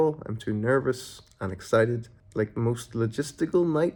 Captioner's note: none